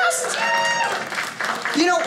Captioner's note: audience cheering